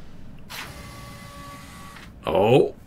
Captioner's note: machine whirr